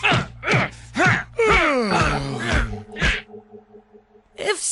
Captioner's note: yawn